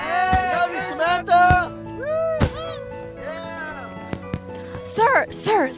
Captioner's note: boys cheering